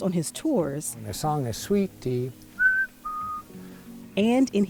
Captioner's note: whistling